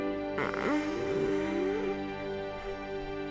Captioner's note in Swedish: stönande